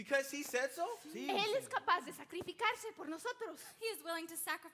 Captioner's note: speaks in Spanish